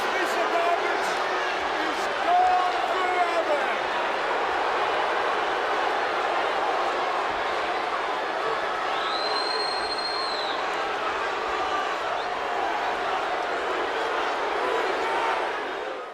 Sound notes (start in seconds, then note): 4.6 crowd boos; 9.2 crowd whistles and boos